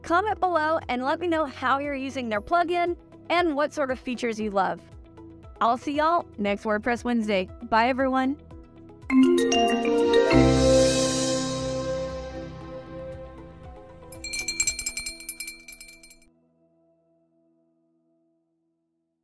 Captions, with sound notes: Comment below, and let me know how you're using their plugin, and what sort of features you love. I'll see y'all next WordPress Wednesday, bye everyone. (graphics chiming) (bell tinkling)